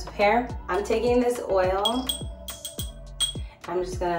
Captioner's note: glass clinking